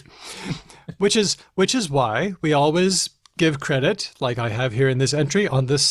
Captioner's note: chuckles